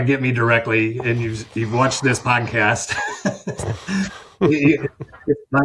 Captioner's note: laughs